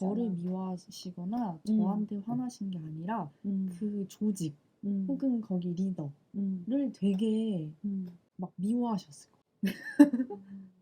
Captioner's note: haha